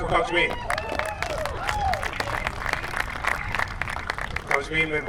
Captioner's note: applause